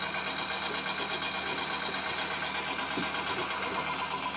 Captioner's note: engine rattling